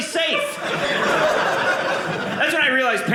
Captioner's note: audience laughing